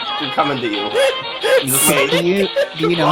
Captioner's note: laughing, out of breath